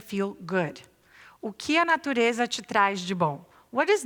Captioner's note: non-english speech